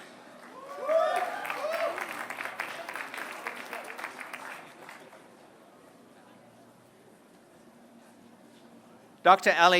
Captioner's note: applause